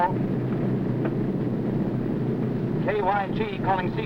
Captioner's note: plane whirring